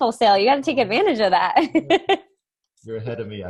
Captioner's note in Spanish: laughs